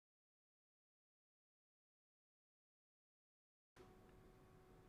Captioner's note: silence